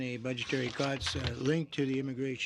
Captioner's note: speaking French